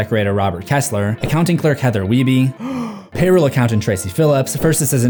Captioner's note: deep breath